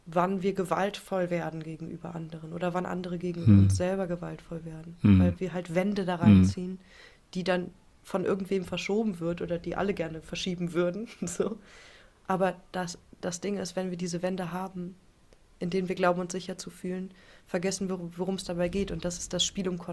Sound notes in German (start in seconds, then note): 5.0 räuspern